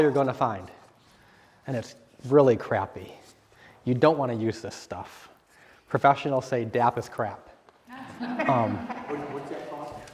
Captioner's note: laughter